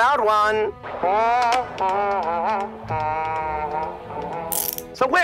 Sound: continues humming

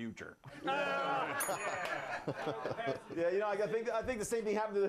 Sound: bell rings

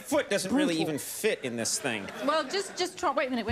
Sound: audience laughs

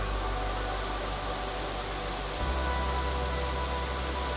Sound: water rushing

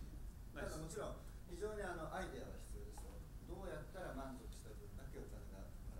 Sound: speaking in foreign language

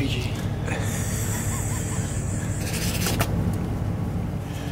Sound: cameraman laughs

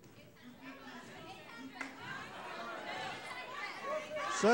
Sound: audience shouting

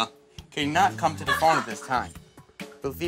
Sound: housemates laughing

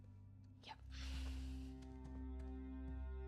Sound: sigh

